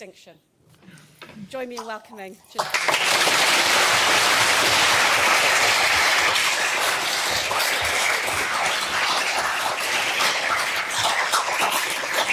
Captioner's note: applause